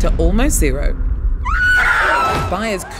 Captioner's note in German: Schreie